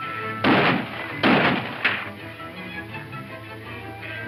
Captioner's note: gunshots